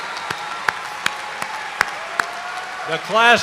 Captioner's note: cheers and applause